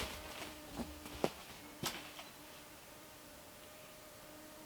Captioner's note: insects buzzing